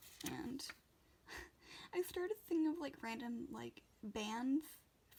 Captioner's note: laughs